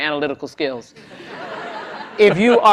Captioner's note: laughter